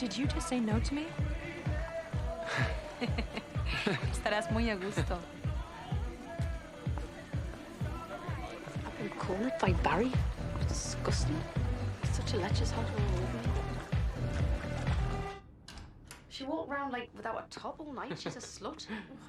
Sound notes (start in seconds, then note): 2.3 Tertawa; 4.1 berbicara bahasa spanyol